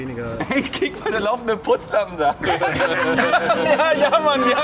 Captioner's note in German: Gelächter